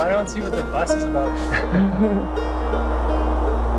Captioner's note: chuckling